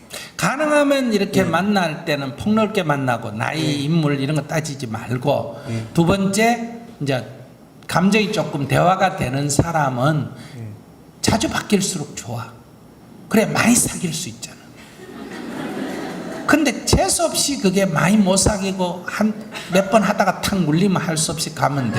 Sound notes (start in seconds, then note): 14.9 audience Laughter